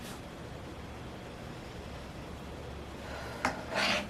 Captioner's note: deep breath